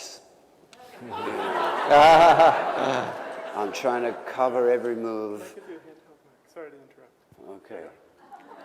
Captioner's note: laughter